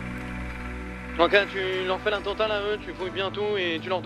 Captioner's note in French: radio